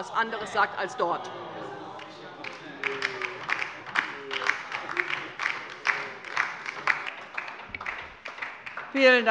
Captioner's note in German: Beifall bei der LINKEN